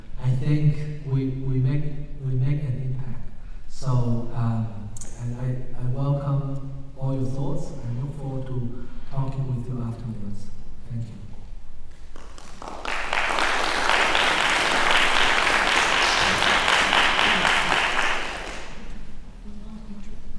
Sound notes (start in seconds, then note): 12.0 applause